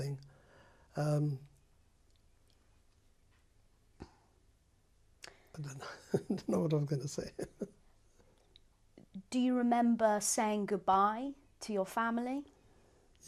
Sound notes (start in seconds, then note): 6.9 laughs